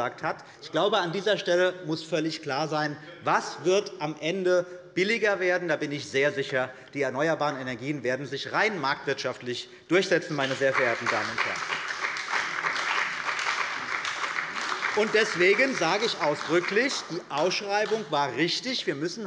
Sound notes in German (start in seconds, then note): 10.3 Beifall bei der CDU und dem BÜNDNIS 90/DIE GRÜNEN